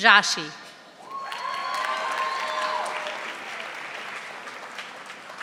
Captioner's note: audience applauding